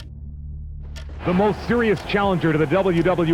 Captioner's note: clock ticking